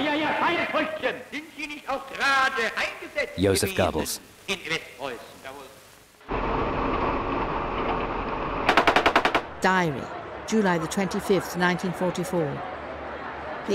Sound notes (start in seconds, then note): 0.1 speaking foreign language; 6.3 engine rumbling; 8.6 gunshots popping